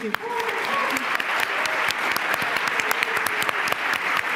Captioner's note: applause